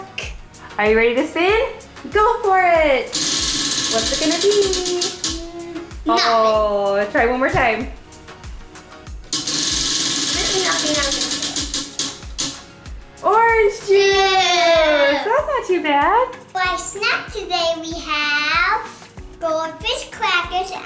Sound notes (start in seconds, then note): 3.1 wheel clicks; 9.3 wheel clicks